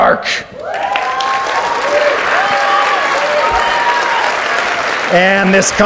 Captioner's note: audience cheers and applauds